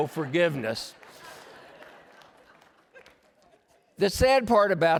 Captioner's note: laughter